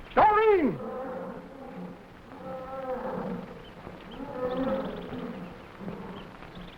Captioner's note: jungle animals groaning; animals chattering